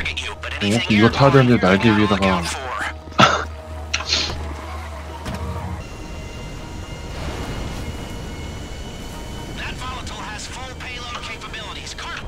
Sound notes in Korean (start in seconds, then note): 3.1 헛웃음